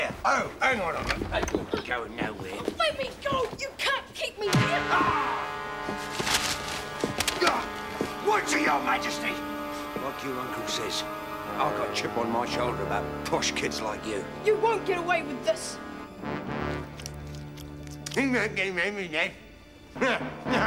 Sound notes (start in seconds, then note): 4.7 Bert shouts; 4.7 dramatic music; 20.0 laughs